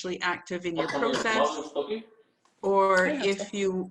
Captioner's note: chatter in the background